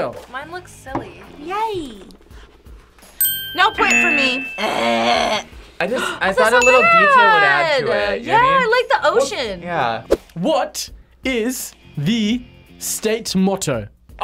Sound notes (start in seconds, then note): 4.6 gasps